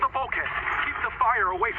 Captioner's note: water bubbling